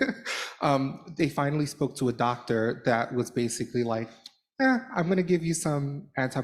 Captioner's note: laughter